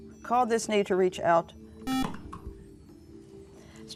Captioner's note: beeping